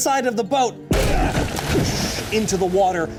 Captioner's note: water splashes; wood clanking